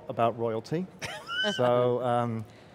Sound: laughs

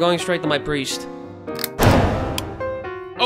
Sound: clang; click

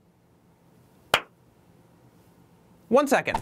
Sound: clap

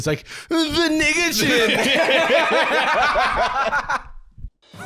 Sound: both laughing

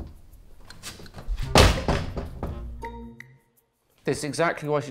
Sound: door slams

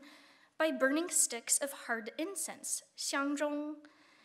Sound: speaking Chinese

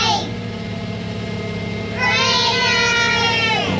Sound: truck sounds

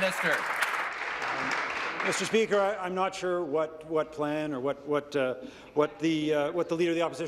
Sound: applause

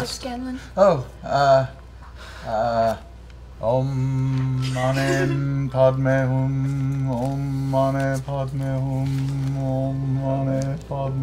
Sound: chanting

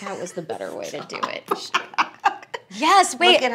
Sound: laughing

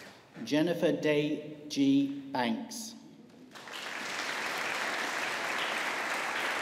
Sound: audience applauding

